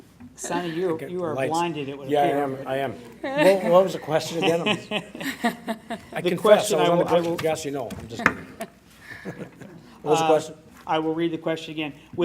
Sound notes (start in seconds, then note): 4.2 laughing